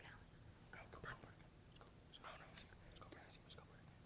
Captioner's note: group whispering